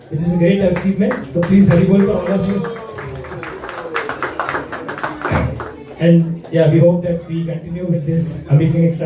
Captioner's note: applause